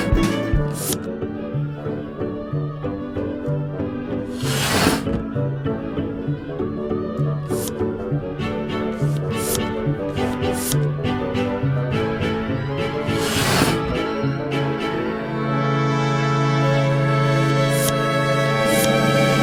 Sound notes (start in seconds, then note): 8.0 air pump noises